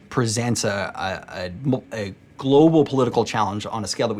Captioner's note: stutters